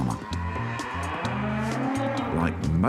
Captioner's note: cow moos